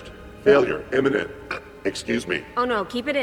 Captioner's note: belch